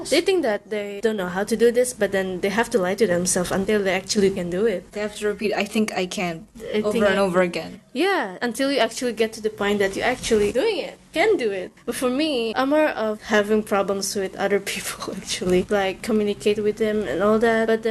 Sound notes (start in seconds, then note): none